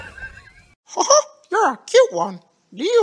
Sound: quiet laughter; in a Mickey Mouse voice

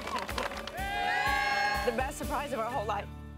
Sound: flip crew clapping; squealing; crew cheering

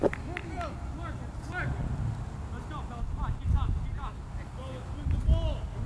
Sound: players talking and yelling

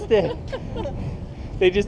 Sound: laughing

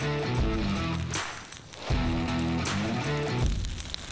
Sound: fire blazing

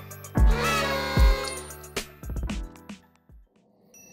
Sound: party horns blow

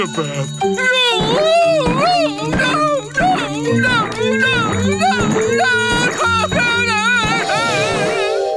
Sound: ringing

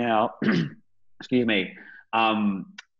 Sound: clears throat

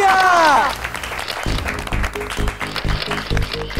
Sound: clapping

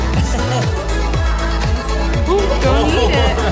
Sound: laughs

